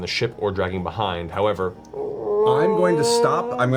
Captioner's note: creaking noise